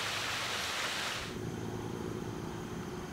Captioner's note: waterfall sounds